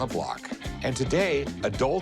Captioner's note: none